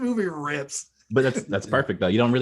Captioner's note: laughs